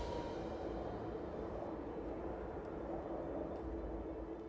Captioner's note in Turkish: Rüzgâr sesi